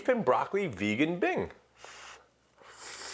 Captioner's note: blows